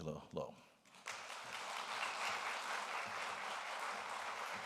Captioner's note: audience applauding